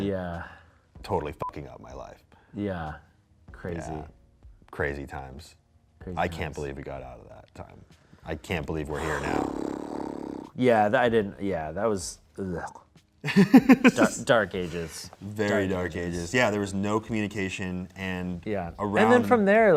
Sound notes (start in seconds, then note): 1.5 beep; 9.5 sighs; 12.5 groans; 13.2 laughs